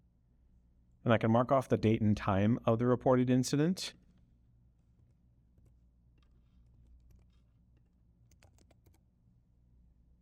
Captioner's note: silence